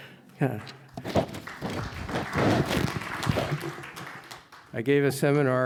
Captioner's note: audience clapping